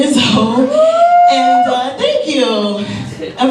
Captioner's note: man cheers